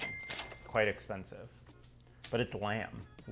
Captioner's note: register ka-ching